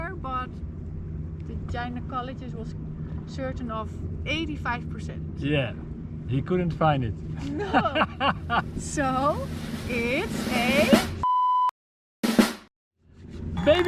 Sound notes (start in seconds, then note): 7.4 laughs; 8.5 drum roll; 12.2 drumming